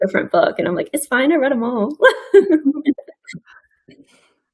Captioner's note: laughs